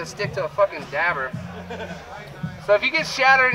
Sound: background upbeat music; man laughing

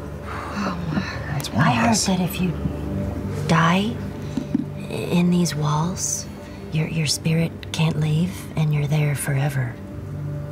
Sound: breathe out

